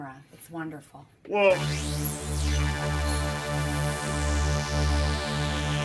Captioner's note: eerie sci-fi whirring